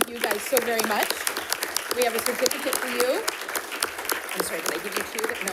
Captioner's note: audience applauding